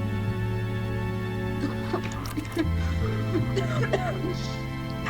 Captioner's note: retching